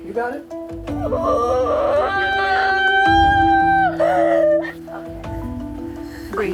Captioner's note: moaning